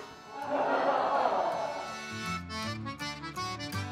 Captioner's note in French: rires